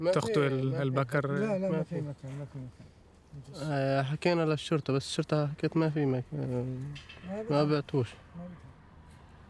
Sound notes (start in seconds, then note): 1.3 speaking foreign language